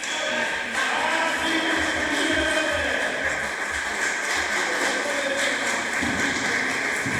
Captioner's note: applause